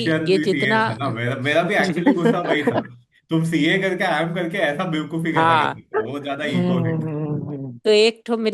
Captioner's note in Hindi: हंसी